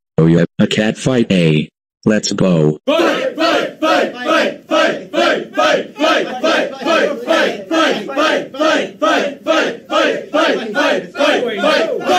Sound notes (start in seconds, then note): 3.2 studends chanting